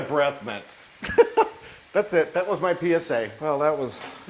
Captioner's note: laugh